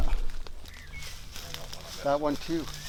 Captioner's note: rustling leaves